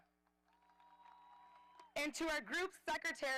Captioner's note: audience applauding